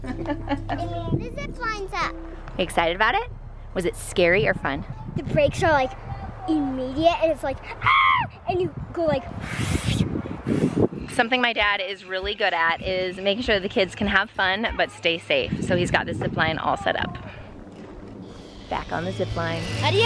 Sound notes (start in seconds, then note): 0.0 laughing; 7.8 screams; 9.3 swooshes